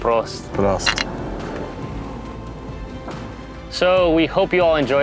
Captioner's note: bottles clink